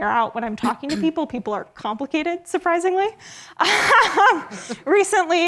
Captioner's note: laughs